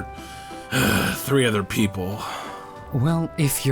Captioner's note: sigh